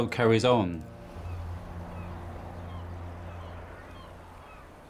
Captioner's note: seagulls continue crying